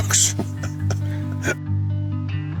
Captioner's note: laughs